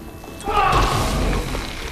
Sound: shouting

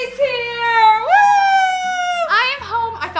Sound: shouts

